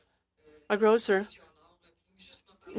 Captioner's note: speaking in french